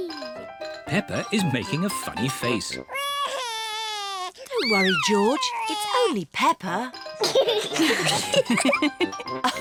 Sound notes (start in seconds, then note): 2.9 cries; 7.6 all laugh